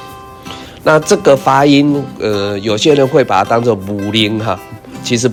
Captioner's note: Taiwanese